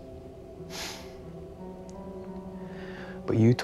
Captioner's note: Ben sighs